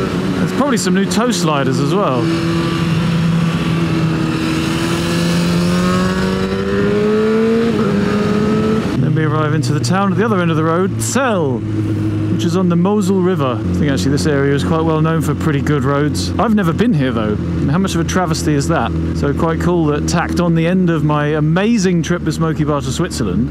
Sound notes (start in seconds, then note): 6.1 and other assorted exhaust noises